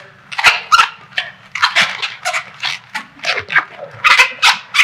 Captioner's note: balloon squeaking